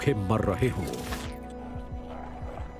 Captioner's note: growling